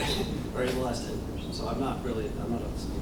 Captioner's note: laughs